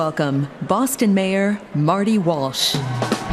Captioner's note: cheers and applause